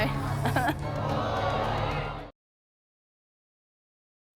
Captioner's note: gasping